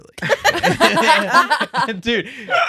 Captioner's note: laughing